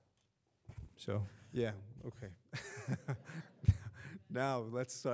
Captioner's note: laughing